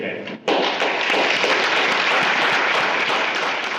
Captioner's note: loud applause